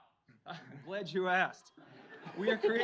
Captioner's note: audience laughs